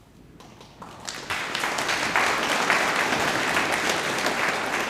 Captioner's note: audience applauding